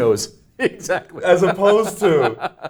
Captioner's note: laughs